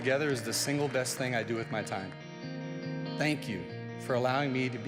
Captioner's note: applause